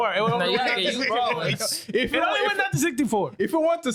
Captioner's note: laughing